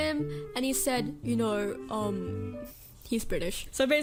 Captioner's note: exaggerated british accent